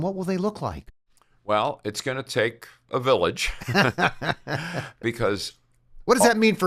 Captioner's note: laughter